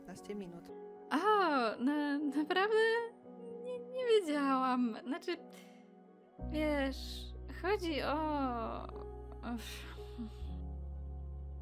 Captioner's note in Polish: wzdycha